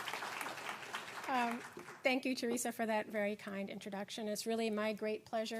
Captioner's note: applause